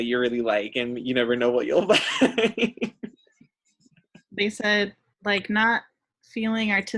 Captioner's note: laughs